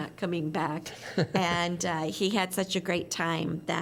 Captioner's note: laughter